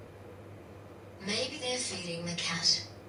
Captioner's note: none